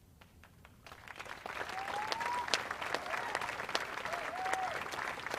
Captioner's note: audience applauds